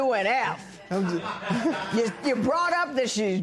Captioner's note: laughter